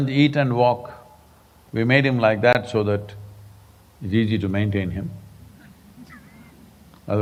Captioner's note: laughs